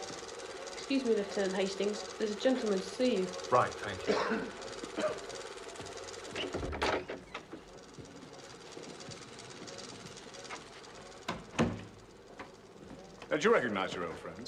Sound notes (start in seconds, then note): 4.0 Pria batuk